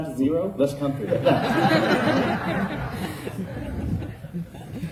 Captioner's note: laughter